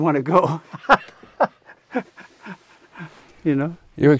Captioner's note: laughs